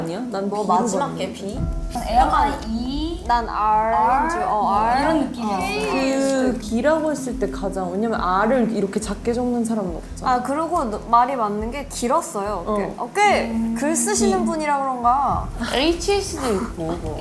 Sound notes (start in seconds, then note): 16.3 haha